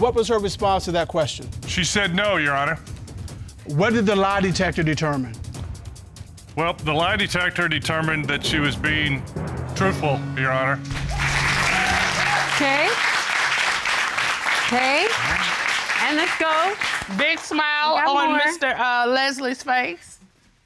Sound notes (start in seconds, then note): 10.8 cheers and applause